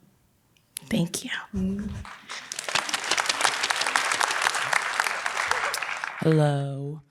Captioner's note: applause